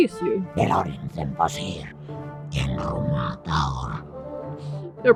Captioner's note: speaks in demonic language